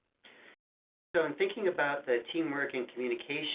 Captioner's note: voiceover